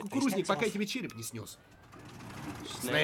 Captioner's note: engine turns over